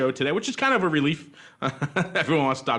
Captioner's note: laughs